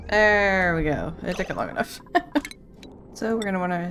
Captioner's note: laughs